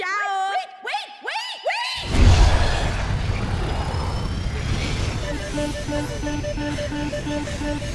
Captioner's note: alarm blaring